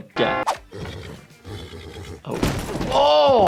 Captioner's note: horse neighing